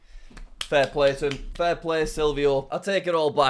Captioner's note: claps